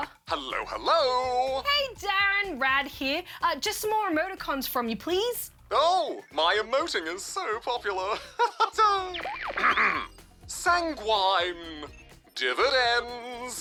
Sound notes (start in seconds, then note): 8.0 laughs; 9.5 clears throat